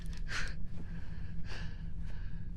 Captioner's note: catches his breath